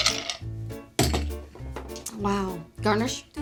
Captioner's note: upbeat music; thud